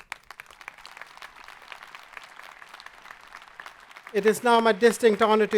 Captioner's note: audience applauding